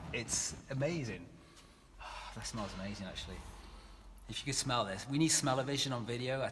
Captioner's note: breathing in